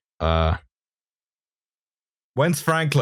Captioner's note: beat